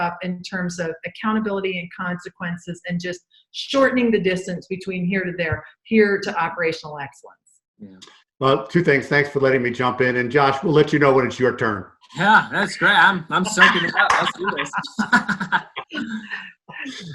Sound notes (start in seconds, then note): 12.1 laughing